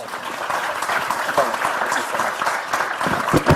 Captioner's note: clapping